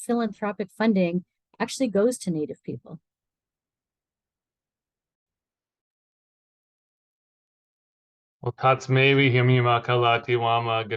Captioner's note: foreign language 00:12:26